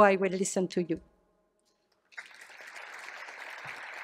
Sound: applause

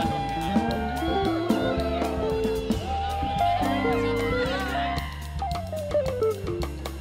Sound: students cheering

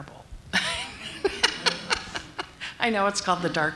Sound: laughter

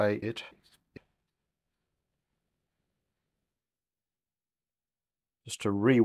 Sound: silence

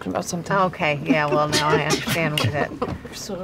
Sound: laughter

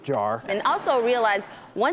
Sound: audience laughs

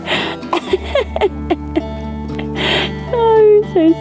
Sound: laughing

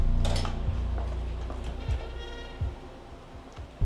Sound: door clicking

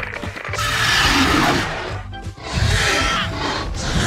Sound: roars

